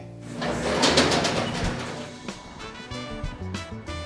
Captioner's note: door grill opening; up beat music